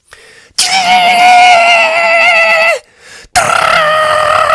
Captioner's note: scream